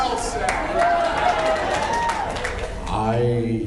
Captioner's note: cheers, applauds; laughs